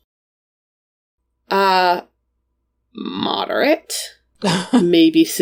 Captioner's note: laughs